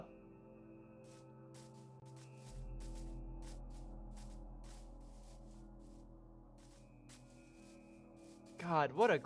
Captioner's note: footsteps